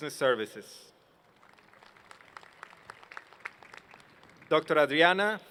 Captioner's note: applause